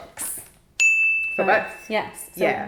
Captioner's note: bell dings